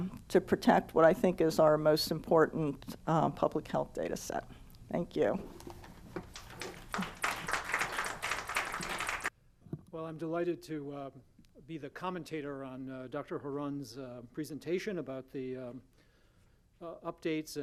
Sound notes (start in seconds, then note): 6.2 applause